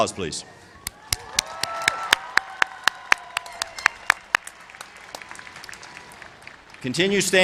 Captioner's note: applause